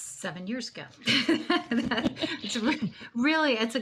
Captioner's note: laughs